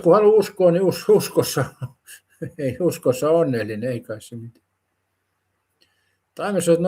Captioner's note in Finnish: naurua